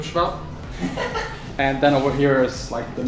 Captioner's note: laughs